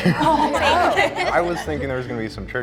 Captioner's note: group chattering